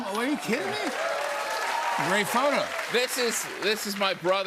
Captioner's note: cheers and applause